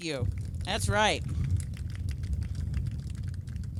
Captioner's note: applause